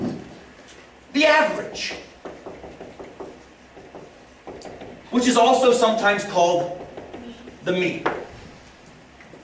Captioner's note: tapping